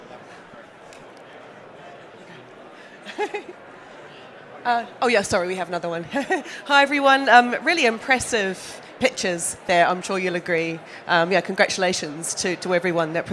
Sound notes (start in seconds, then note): 2.7 chuckles